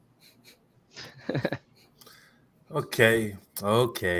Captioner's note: laughter